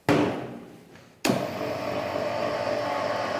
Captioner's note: rattling, roaring